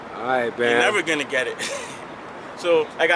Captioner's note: laughing